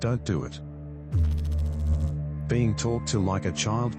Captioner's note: electrical noise